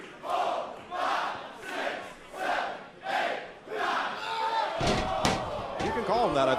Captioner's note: crowd cheering